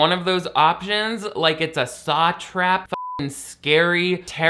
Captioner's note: beep